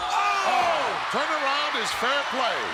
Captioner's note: Yokozuna screams; commentators exclaim